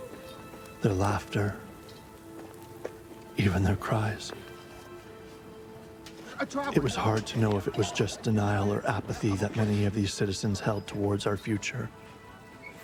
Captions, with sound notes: ...their laughter, even their cries. - ( chattering ) -It was hard to know if it was just denial or apathy that many of these citizens held towards our future.